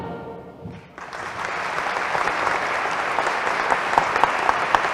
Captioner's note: applause